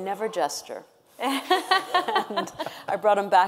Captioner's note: panel laughing